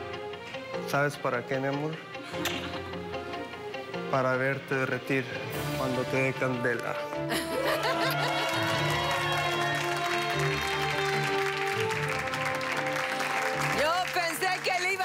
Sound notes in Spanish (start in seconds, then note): 7.2 Risas; 14.5 Aplausos